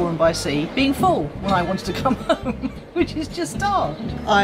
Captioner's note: laughs